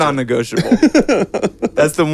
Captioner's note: laughing